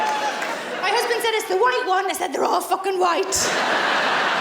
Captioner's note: laughing